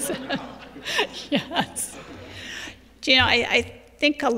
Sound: laughter

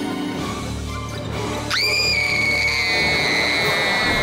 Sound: screaming

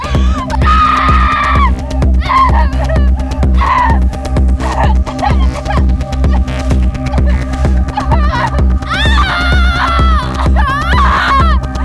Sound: agonizing scream in German

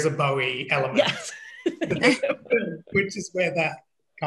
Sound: laughs

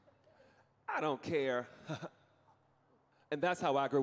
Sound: chuckling

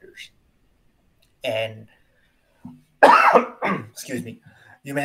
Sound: coughs

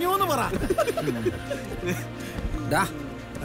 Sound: laugh

